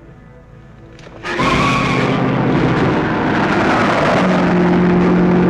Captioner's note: tires screeching